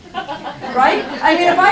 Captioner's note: laughing